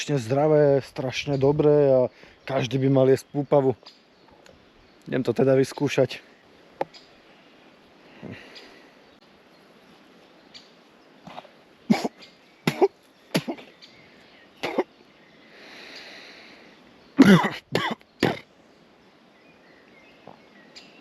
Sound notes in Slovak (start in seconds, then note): 17.2 kašeľ